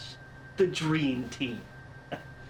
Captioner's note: scoffs